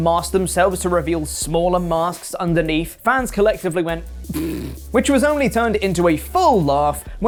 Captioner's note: snort